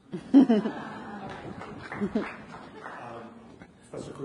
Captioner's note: audience laughs